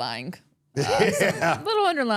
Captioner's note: laughing